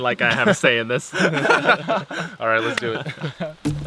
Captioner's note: laughing